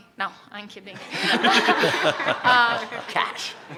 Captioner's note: laughter